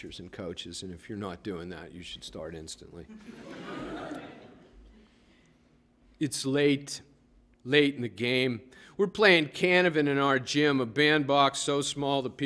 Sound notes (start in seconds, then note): 3.1 laughter